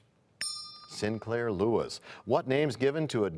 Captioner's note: bell rings, time expires